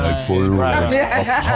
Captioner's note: laughs